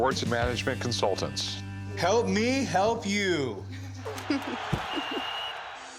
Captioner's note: crowd roaring, whistle